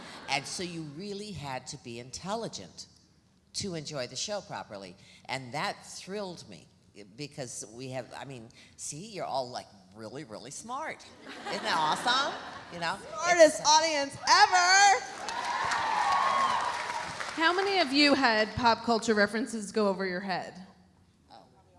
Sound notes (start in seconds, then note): 15.0 audience cheering; 15.0 audience applauding